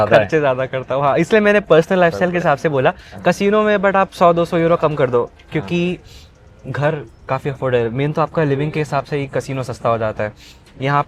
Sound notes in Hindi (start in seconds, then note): 5.3 नाक से की जाने वाली आवाज़